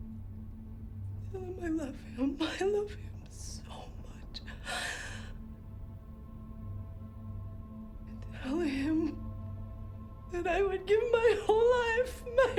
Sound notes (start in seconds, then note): 4.4 sobs